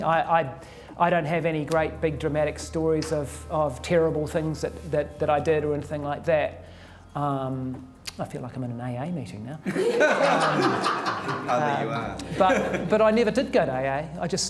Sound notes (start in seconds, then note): 9.6 laughter